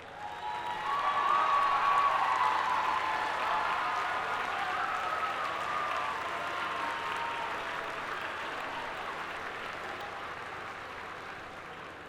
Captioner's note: applause